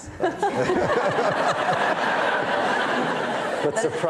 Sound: audience laughing

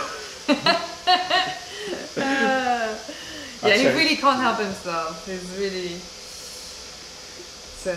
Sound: laughter

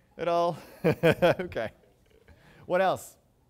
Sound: chuckles

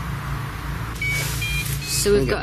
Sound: machine beeping

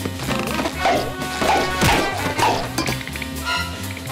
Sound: popping

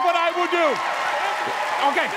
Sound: cheering

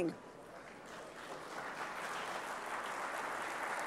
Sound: audience applauding

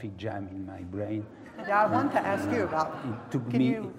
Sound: laugh

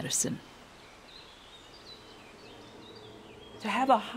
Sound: birds chirping

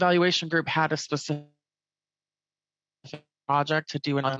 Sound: audio glitches

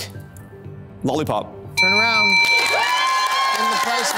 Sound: buzzer ringing

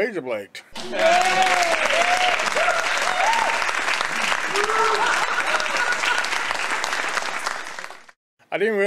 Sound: audience Cheering

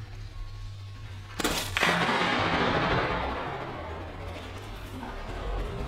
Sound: echoing clay shot

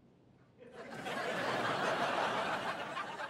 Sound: audience laughing

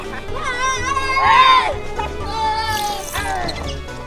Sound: screaming

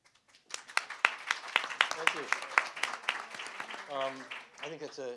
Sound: applause

